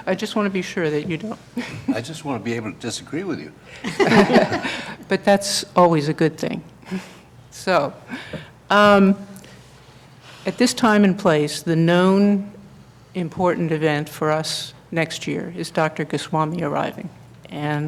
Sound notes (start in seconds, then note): 3.7 laughter